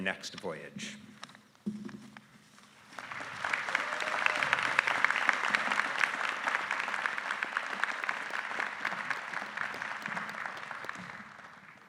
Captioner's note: applause